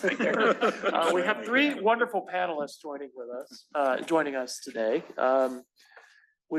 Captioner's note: laugh